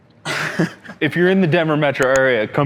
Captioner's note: laughter